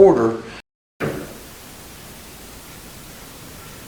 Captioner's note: thud